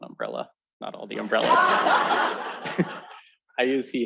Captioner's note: laughter